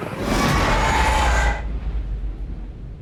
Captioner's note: distorted baby shriek